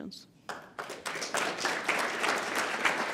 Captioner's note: applause